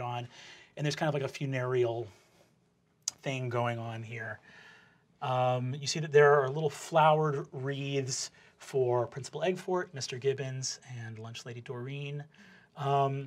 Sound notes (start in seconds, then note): none